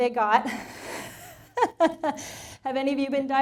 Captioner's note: laughing